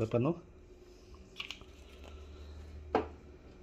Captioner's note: closing ink bottle cap